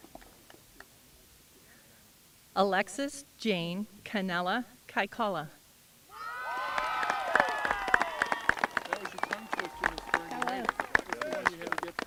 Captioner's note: applause